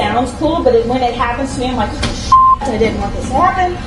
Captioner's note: beep